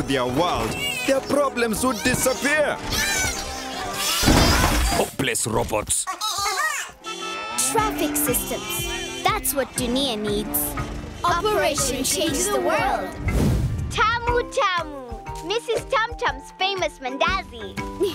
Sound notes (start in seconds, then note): 2.7 squealing; 6.9 honking